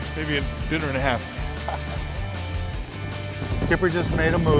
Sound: laughing

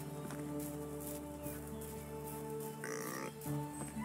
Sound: pig grunts

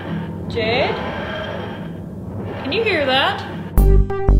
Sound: TARDIS noise

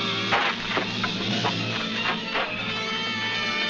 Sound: dirt crunching; dramatic instrumental music

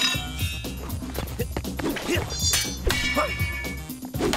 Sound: grunting

